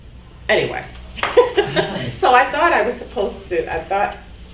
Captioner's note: laughs